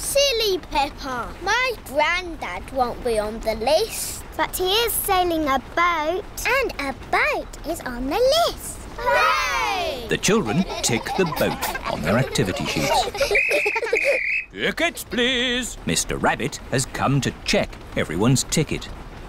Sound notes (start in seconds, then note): 13.3 blows whistle